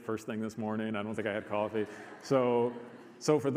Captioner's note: audience laughs